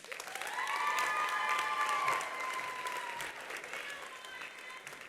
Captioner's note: attendees applauding; attendees cheering